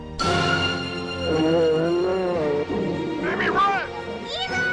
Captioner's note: sudden intense music; bear roaring